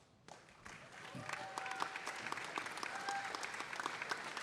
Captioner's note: audience applauding